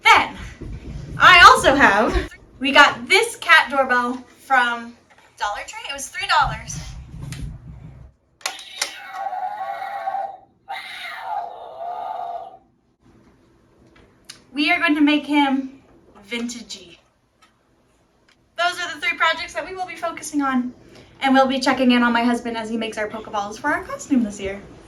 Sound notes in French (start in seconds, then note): 8.4 Yowl de chat